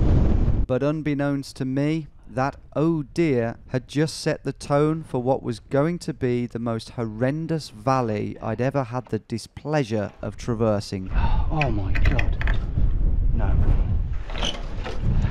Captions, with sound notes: - [Voiceover] But unbeknownst to me that, "Oh dear" had just set the tone for what was going to be the most horrendous valley I'd ever had the displeasure of traversing. - Oh my God, no.